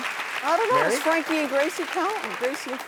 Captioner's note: clapping